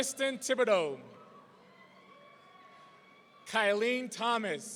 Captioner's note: audience cheering